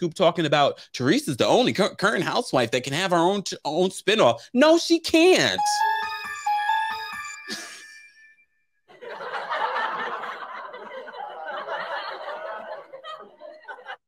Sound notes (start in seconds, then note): 5.3 soft music; 9.0 congregation laughs